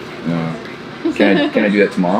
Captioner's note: laughs